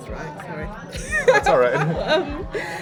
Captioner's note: laughs